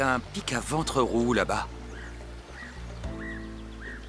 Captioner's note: bird calling